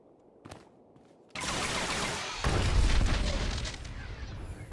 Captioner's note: gun firing